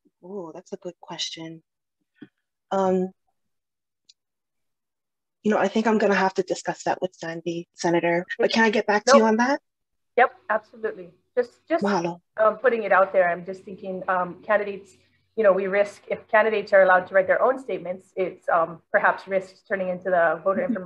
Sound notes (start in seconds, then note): 12.5 in foreign language